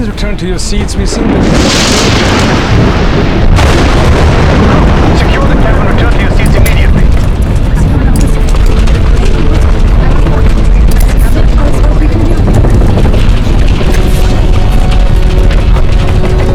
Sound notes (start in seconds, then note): 10.8 click; 13.8 storm swirling